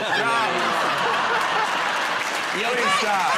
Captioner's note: laughter